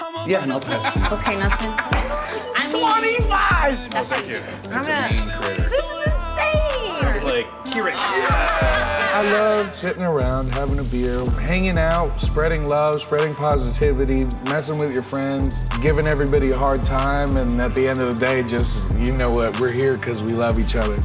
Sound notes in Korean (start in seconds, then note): 1.6 웃음소리